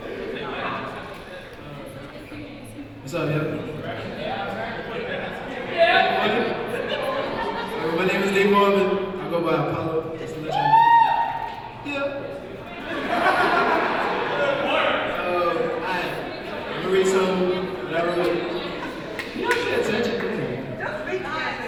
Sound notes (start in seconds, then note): 0.3 young man speaking off-mic; 5.1 audience talking; 10.7 yell from audience; 12.7 audience laughing